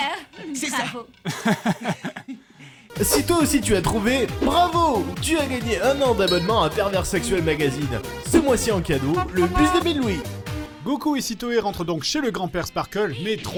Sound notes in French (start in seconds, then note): 1.2 Rire; 2.9 Voix de show télé